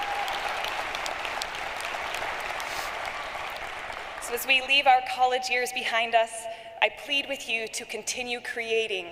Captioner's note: cheering and applause